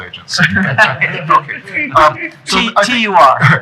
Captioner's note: laughter